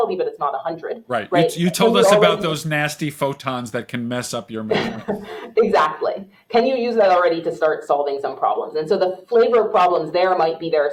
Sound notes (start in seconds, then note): 5.7 laughs